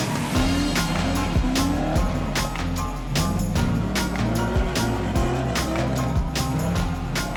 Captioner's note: engine revving; upbeat music